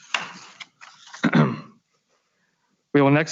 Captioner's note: clears throat